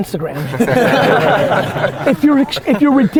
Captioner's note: group laughter